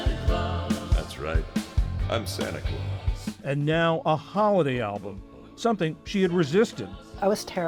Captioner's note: voice-over